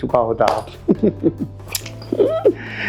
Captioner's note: chuckles